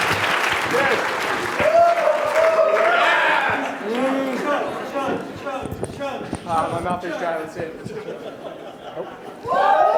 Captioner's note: applause; chatter; laughter